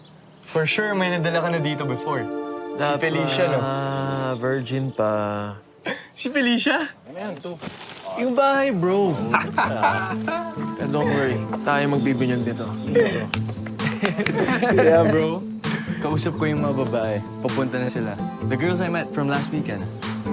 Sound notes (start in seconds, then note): 5.8 chuckles; 9.0 laughing; 12.8 chuckling